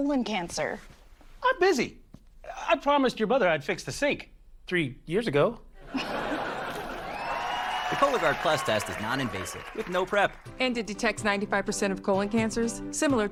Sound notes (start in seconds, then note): 5.8 audience: laugh track; 6.4 audience: applause